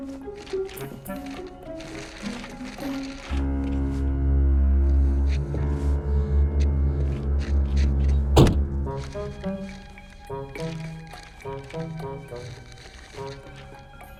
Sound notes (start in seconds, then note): 0.2 suspenseful music; 8.3 car door slams shut